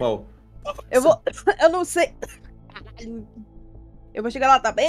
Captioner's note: coughing